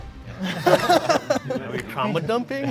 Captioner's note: all laugh